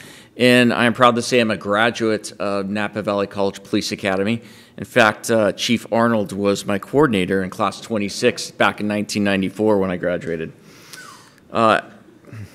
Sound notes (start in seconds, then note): 10.1 laughter